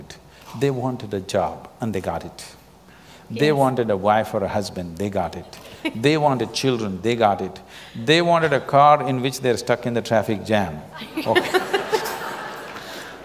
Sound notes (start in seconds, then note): 11.1 laughter